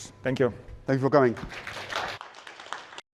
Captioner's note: applause